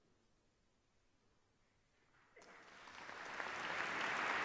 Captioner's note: applause